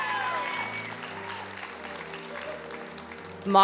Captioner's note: applause and cheering